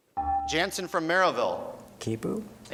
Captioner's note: beeping